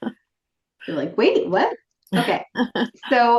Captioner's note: laughing